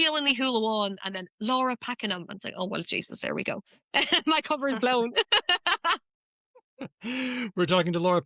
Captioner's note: laughter